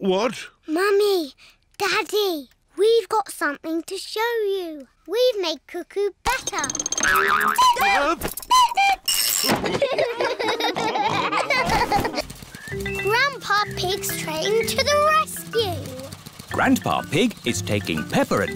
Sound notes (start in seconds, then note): 6.4 clock cuckoos; 9.6 all laugh